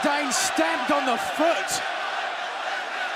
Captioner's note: crowd cheering